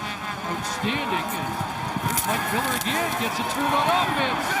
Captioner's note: crowd din